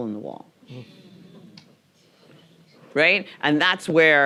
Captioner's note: audience murmuring